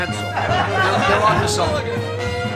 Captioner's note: laughter